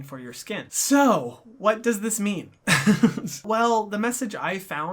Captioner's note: laughs